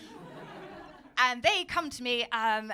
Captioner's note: audience laughing